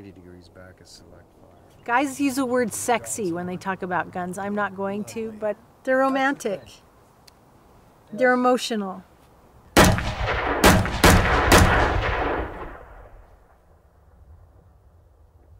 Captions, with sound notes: Guys use the word sexy when they talk about guns. I'm not going to, but they're romantic. They're emotional. (gunshots)